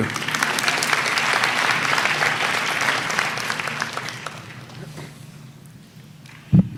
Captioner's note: applause